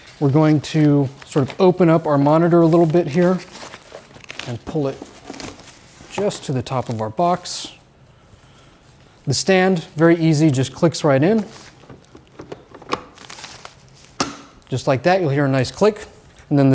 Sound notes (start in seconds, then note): 11.3 cover rustling; 12.2 monitor stand clacking; 14.0 monitor stand clicking